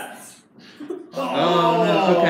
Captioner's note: laughing